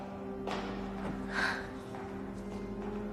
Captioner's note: exhaling sharply